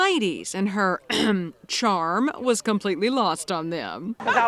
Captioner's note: clears throat